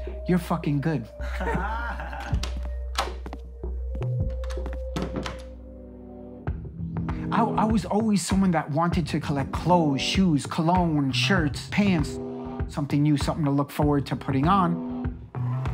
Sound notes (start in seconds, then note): 1.2 crowd laughing; 4.2 door opening and closing